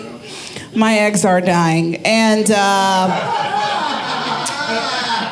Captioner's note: audience laughing